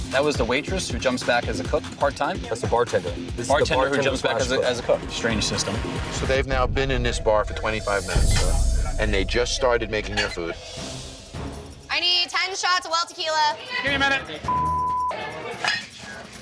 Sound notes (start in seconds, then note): 14.4 beep